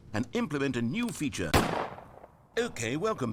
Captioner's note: gunshot sound